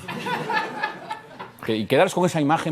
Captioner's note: laughter